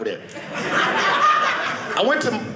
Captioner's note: audience laughing